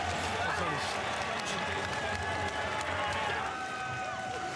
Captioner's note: cheers and applause